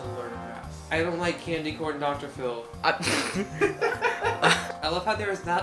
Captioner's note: laughs